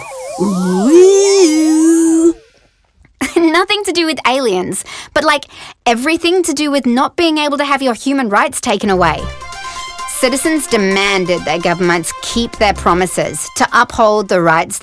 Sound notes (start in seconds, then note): 3.3 laughs; 8.8 newscast music